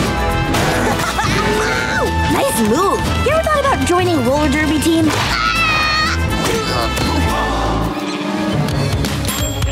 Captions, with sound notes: [laughing] Nice move! You ever thought about joining a roller derby team? [screaming]